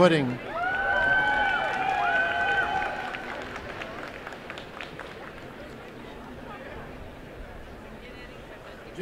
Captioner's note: applause and cheering